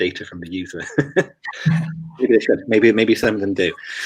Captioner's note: laughs